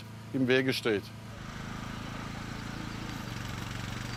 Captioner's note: continuous humming